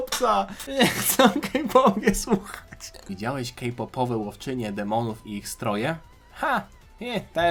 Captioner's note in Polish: śmiech